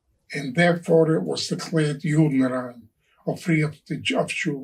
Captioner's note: speaking in foreign language